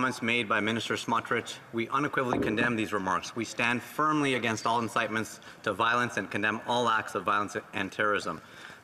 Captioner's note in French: voix de l'interprète